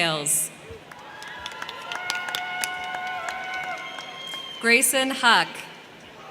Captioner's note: crowd cheering; crowd clapping; crowd cheering; crowd clapping